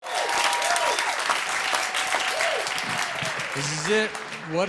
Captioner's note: cheers and applause